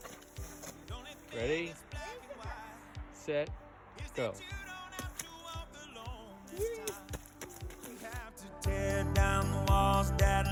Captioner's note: splashing; splashing